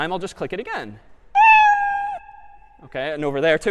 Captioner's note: meow